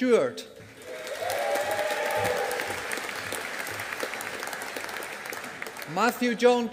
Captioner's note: audience applauding